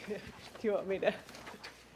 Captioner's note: laughs